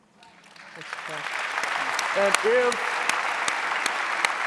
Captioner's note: audience applauding